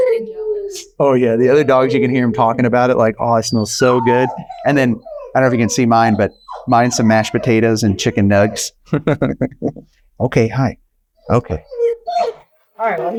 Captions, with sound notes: - The other dogs are getting jealous. - Oh yeah the other dogs, you can hear him talking about it like, oh it smells so good. And then I dunno if you can see mine, but mine's some mashed potatoes and chicken nugs. (chuckling) Okay. Hi. Okay.